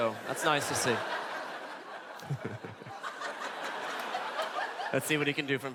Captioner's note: laughte